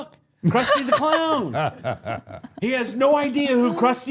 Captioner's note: group laughs